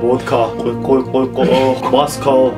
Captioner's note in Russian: куль-куль-куль